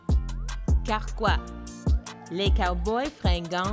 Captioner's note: speaking French